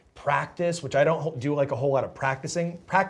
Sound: none

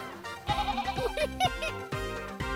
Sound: bleating; laughter

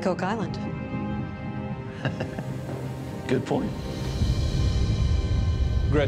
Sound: chuckles

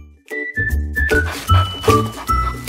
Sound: dog playfully growling

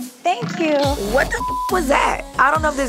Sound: beep

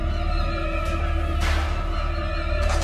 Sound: gate opening sound

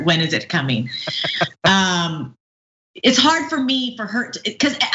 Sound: laugh

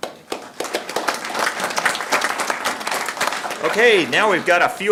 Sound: audience clapping

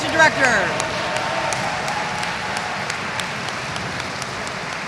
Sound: audience applauds

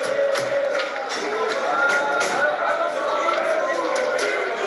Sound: chatter

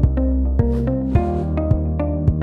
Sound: upbeat electronic music; swoosh; upbeat electronic music

